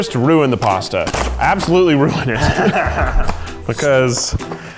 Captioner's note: laughing